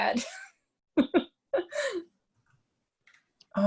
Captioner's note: laughs